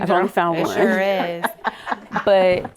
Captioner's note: women laughing humorously